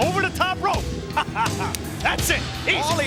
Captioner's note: Shane laughs